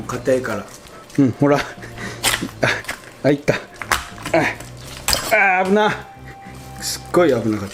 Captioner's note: haha